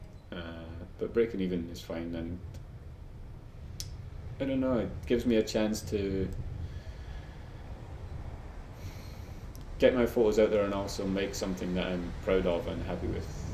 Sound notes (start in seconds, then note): none